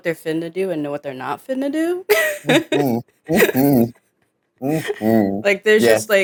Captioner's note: chuckles